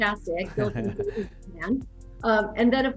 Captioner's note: chuckling